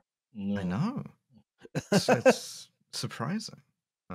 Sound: laughs

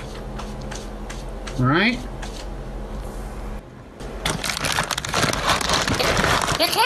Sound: bag rustling

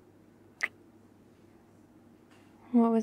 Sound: kiss

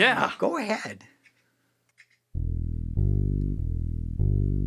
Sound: click

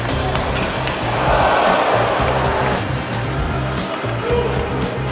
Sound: crowd cheering

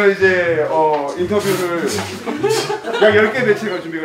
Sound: laughing

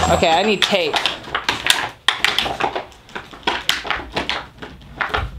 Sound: bottles crinkling

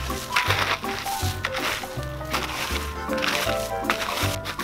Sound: shovel scraping

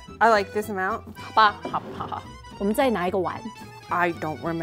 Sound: speaking in mandarin

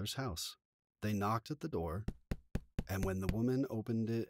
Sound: three knocks sound on a thick wooden door

